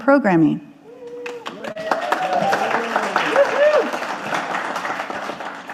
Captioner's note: audience applauding